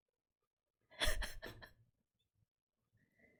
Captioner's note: laughs